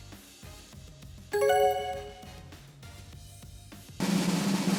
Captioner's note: bell dings; drumroll